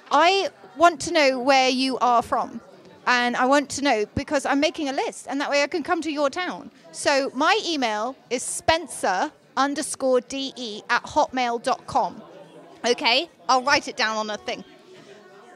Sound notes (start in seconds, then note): none